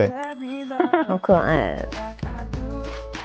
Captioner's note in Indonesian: Tertawa